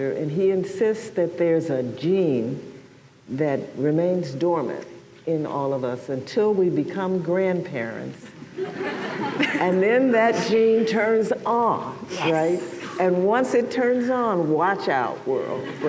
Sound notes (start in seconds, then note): 8.5 laughter